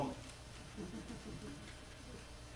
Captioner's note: laughter